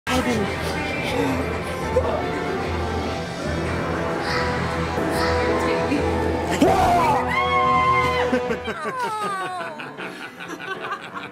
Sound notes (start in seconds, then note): 6.6 screaming; 6.6 shouting; 8.1 laughing